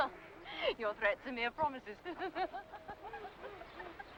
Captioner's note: giggles; sound of giggling heard